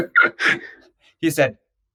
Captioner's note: laughs